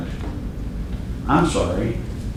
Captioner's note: door close